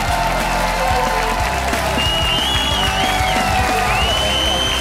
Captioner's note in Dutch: applaus en gejuich